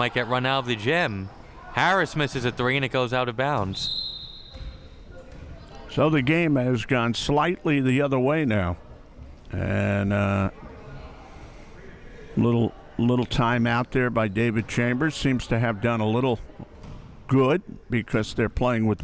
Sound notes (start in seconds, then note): 3.8 whistle chirping